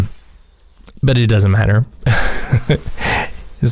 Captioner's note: haha